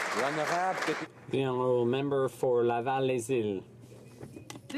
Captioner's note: some Applause